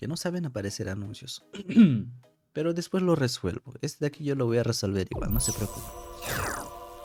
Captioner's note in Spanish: carraspeo